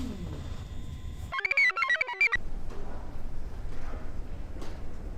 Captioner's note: computer chirps